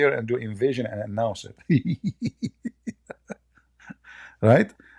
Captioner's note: Ketawa